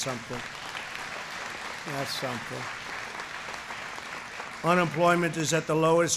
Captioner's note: applause